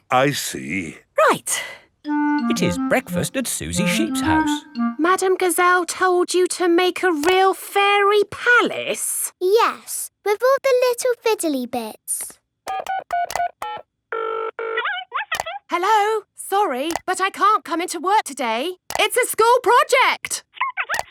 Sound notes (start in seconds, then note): 12.7 dials phone; 14.7 on phone